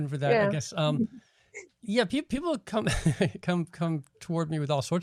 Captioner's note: laughing